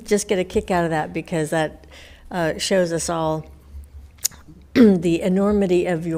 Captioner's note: coughs